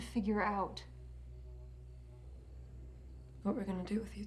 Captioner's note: crickets chirping